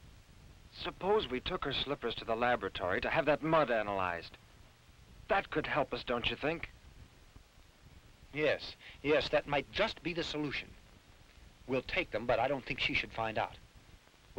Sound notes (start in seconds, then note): none